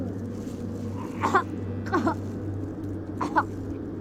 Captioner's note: vomiting